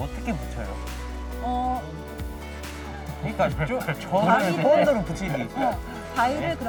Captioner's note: laughs